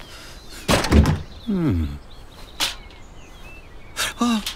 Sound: door clunks

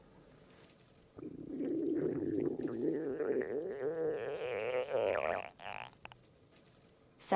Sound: Selina's stomach growls

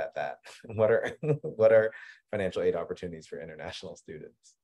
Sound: laughs

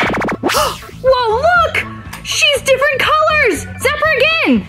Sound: gasps

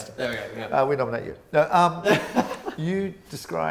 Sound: laughs

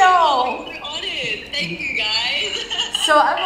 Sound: laughs

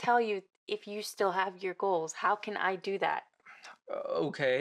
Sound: he sighs

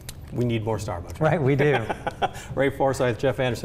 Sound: laughing

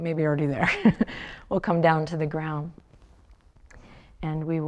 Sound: chuckles

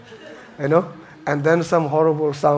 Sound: audience laughing

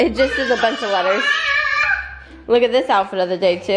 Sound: screaming

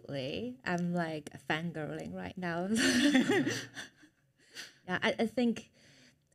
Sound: chuckles

